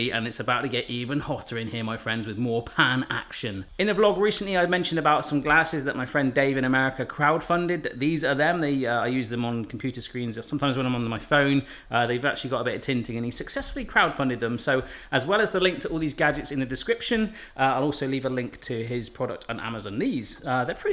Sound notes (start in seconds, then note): none